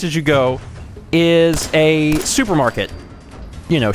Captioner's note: blam!